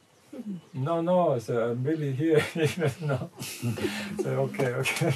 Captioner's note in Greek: γέλια